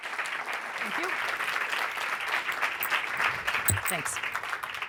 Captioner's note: applause